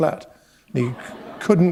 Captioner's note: laughter